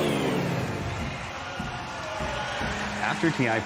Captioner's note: upbeat music playing; crowd cheering